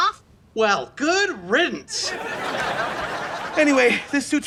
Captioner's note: laughs